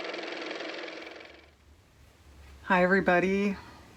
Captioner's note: car motor